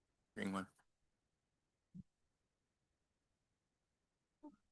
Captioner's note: speaking faintly